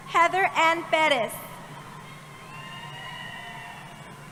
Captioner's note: cheering